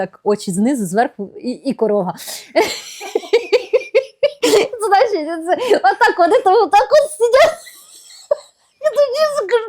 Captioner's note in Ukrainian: сміх